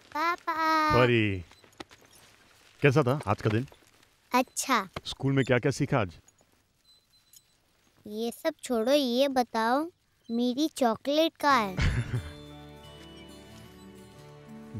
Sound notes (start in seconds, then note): 11.7 Laughs